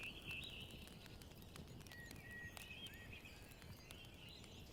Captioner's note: birds chirping